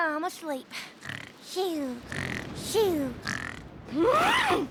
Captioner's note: imitating snoring